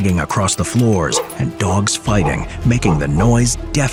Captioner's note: dogs barking